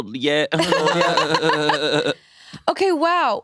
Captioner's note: laugh